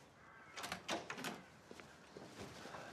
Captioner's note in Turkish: Kapı açılma sesi